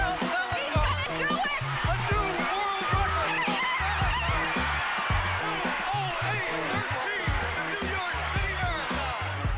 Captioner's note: man on TV